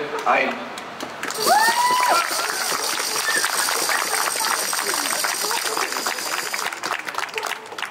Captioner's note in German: Applaus